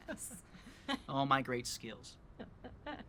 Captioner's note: laughs